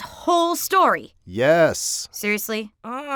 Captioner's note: voiceover